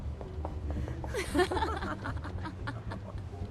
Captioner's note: women giggling